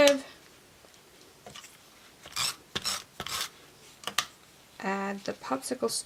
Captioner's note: tool scratching